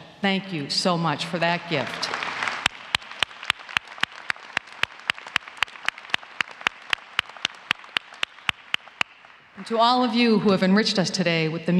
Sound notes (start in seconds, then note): 3.6 applause